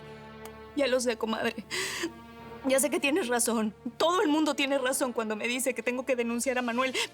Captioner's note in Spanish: Solloza